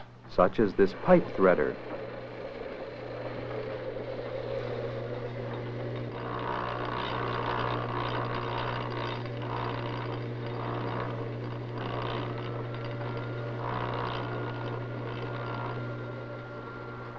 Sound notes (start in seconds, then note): 2.4 whirring noises